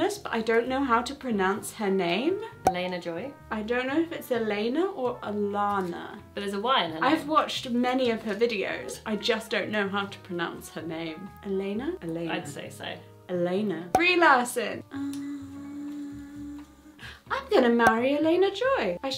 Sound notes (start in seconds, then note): 2.6 cork popping; 13.9 cork popping